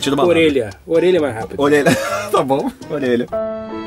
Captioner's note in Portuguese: risos